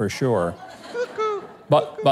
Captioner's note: audience laughs